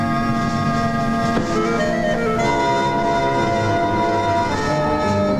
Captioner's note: car door thudding